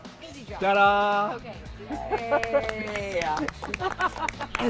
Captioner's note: applause